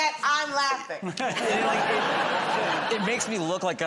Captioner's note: laughter